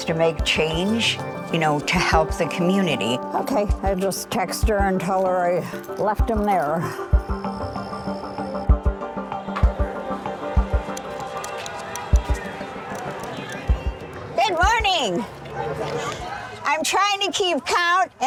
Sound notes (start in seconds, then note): 7.8 pensive music; 9.3 people chattering; 10.4 horns honking